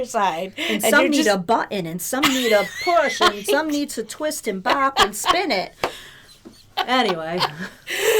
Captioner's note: laughter